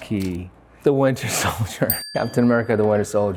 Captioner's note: bell dings